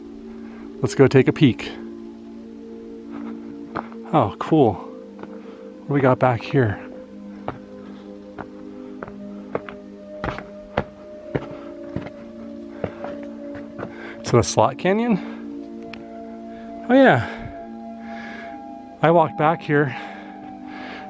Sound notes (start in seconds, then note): 8.5 footsteps